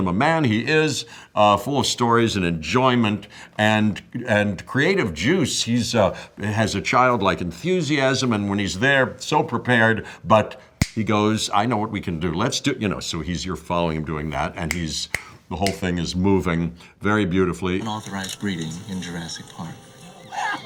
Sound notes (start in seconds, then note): 15.1 snaps fingers